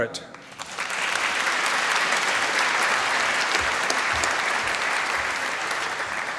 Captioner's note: applause